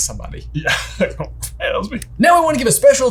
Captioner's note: laughing